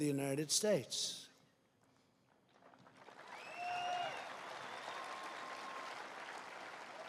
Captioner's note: applause